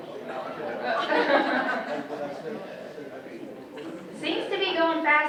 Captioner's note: audience laughs